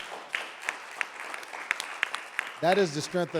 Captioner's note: audience applauding